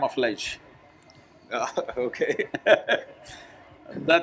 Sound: both laugh

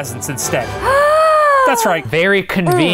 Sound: gasps

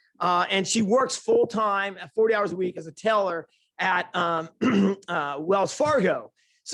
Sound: ahem

